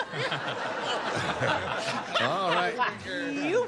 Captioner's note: laughter